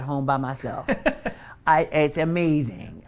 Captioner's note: laughs